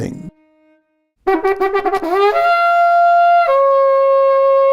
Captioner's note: horn blowing